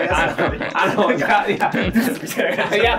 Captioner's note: laughing